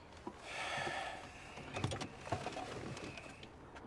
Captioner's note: Loz sighs